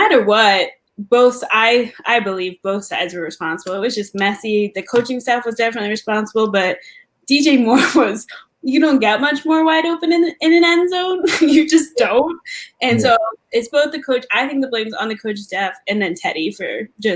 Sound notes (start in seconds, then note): 12.8 laugh